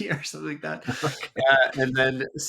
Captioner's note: laughs